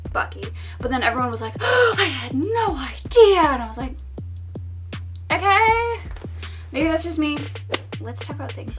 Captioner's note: gasp